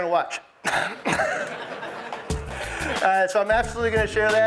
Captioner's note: all laughing